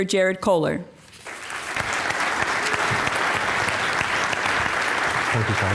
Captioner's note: applause